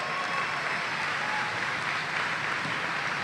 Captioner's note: applause